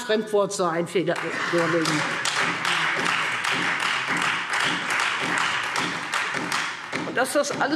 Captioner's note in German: Beifall Freie Demokraten und vereinzelt SPD